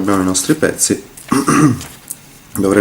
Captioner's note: cough cough